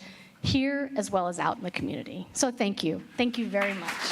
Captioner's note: applause